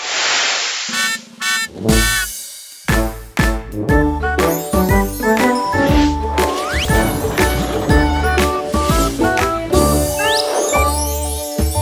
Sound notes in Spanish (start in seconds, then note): 1.4 Sonido de bocina; 2.8 Música alegre